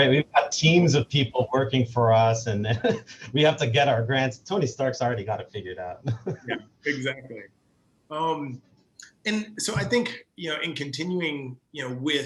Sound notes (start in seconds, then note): 5.9 laughs